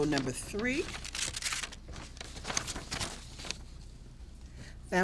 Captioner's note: papers shuffling